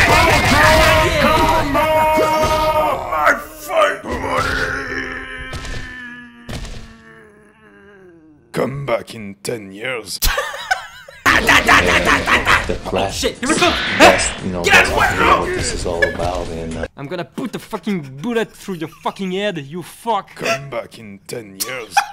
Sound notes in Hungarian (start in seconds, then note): 10.2 Nevetés; 19.9 Nevetés